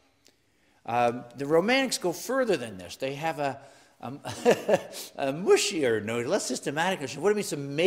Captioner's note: laugh